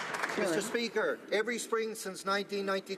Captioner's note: applause